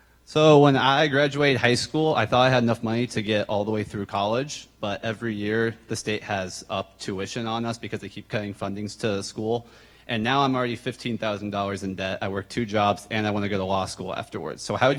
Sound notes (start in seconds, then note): none